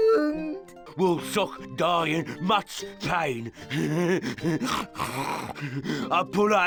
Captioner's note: grunt-grunt